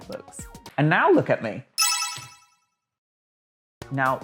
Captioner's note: glitter sound